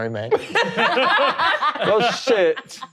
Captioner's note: all laughing